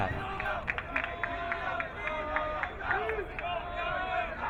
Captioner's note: crowd cheering